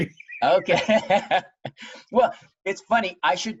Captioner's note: laughs